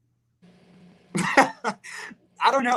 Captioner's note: Liam laughs